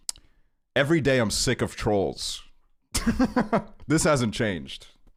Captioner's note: laughs